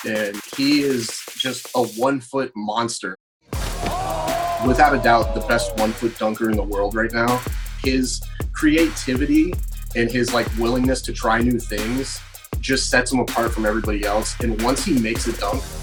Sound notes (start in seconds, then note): 3.6 crowd cheering